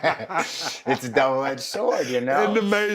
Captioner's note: laugh